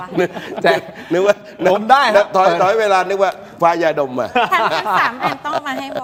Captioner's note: laughs; laughs